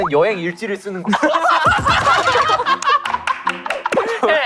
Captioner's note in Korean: 박장대소